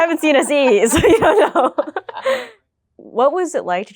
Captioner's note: laughing